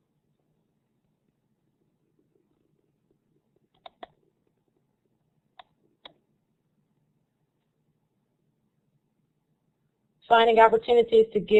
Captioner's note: silence